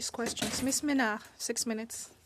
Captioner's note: speaking in French